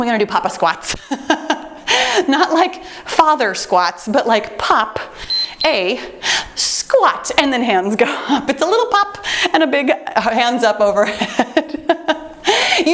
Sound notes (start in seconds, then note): 1.3 laughs; 5.2 timer beeps; 12.0 laughing